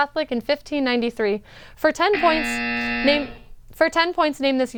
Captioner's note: end of match Buzzer